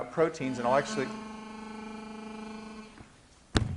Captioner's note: buzzing